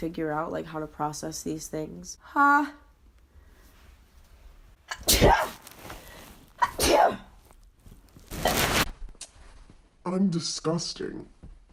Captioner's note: sneezes, burp